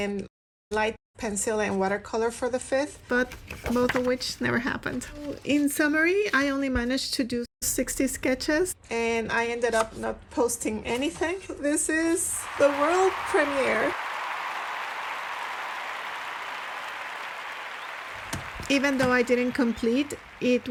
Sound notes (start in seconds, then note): 13.7 stadium crowd applause